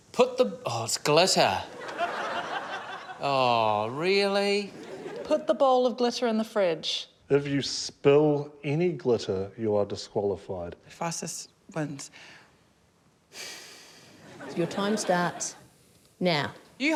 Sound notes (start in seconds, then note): 12.9 sighs